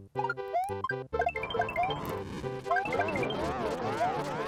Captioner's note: silly video game noises